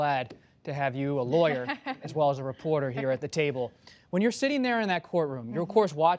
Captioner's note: laughter